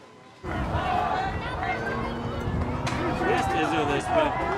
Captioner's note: crowd chattering